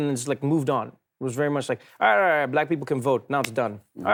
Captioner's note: blathers